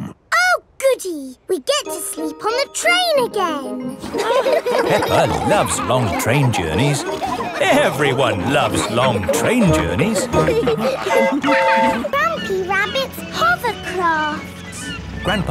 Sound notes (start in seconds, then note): 4.2 laughing; 11.1 train whistle toots